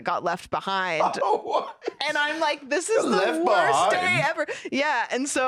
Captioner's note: laughing